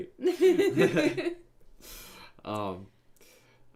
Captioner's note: laughing